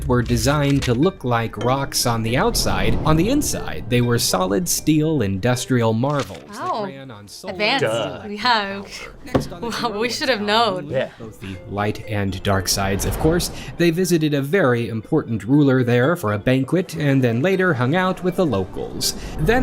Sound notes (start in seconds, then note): 7.4 laughs